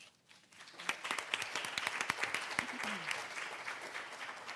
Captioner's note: audience applauding